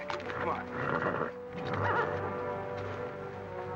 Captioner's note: horse grunts; ominous music